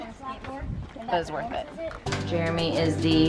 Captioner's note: children murmuring